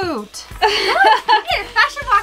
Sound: laughter

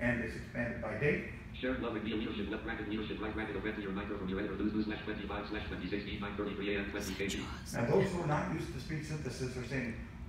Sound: JAWS speaking- laughing

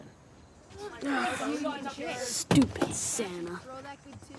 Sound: grumbling

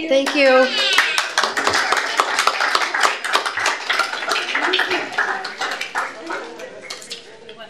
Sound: applause

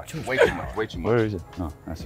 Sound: laugh

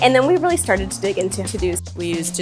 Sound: mouse clicking

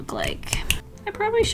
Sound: clicks

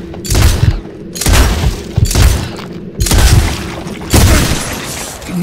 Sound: gunshots

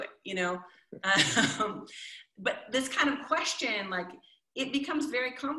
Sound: chuckles

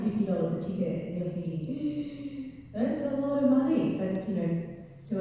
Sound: gasps

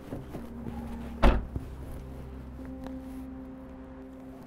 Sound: trunk closing

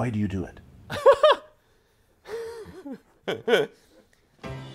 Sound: laughs

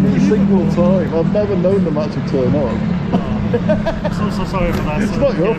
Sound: laughs

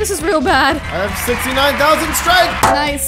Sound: crowd cheers

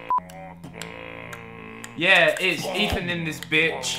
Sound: beat boxing

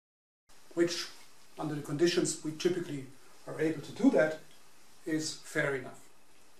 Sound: breathing

